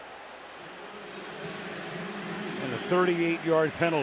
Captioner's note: pa announcement